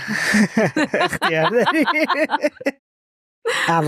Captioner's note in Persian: خنده